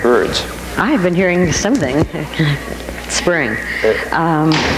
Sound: laughing

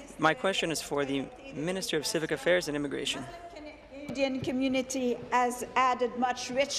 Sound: speaking in French

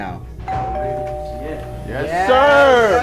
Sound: doorbell ringing

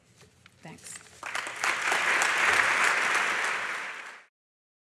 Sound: applause

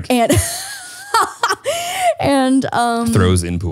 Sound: laughs

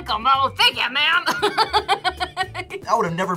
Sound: laughs

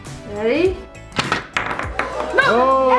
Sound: ball clacks; disappointed crowd

